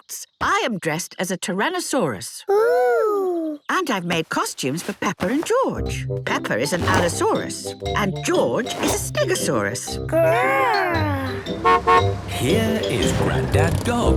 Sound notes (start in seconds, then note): 11.5 horn honking